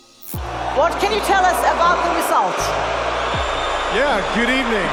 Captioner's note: audience booing loudly